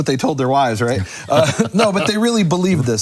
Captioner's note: laughter